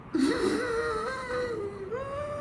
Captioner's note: gasps